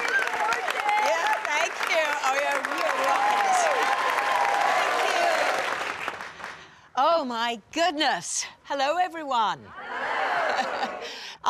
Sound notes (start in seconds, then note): 2.3 cheering, applause